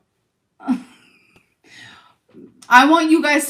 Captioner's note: chuckles